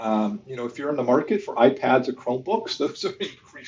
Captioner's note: laughs